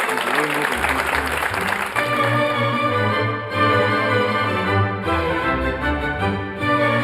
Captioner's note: audience clapping; highbrow orchestral music